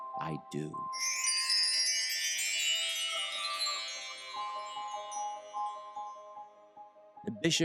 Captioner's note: bells ringing mystically